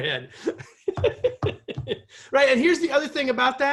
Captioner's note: laughter